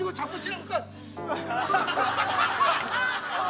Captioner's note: sob